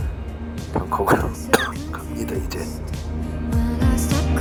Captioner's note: cough